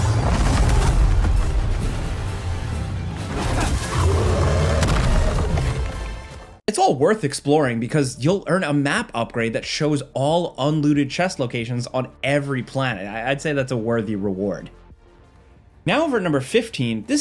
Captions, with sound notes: (monster grunts) (monster growls) It is all worth exploring because you'll earn a map upgrade that shows all unlooted chest locations on every planet. I'd say that's a worthy reward. Now over at number 15,